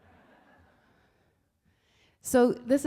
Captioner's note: laughing